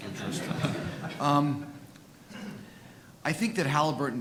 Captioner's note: audience laughing